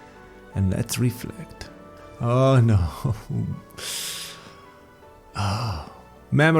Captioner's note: sigh